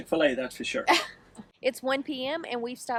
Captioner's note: laughs